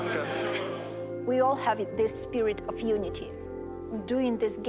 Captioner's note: speaking English